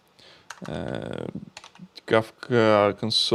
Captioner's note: keyboard clicking